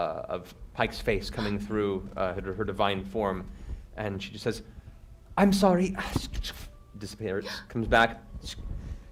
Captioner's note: static